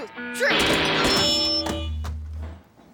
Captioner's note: feedback noises